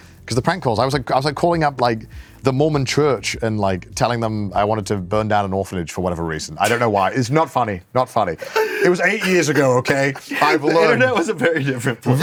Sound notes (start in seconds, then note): 8.4 laughs